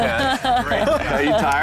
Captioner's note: lalaugughthterer